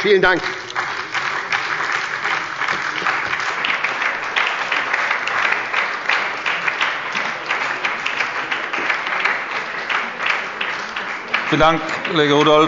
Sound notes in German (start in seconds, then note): 0.0 Lebhafter Beifall bei der SPD und der LINKEN